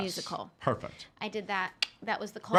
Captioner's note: tongue clicking